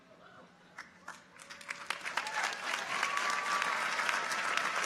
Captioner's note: audience applauds